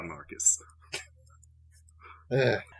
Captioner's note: faint laughter